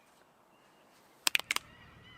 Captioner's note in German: beide schnipsen